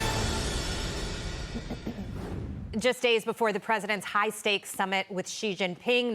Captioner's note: laughter